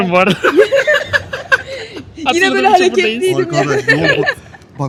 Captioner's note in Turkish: kahkaha; kahkaha